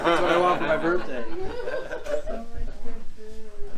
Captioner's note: laughter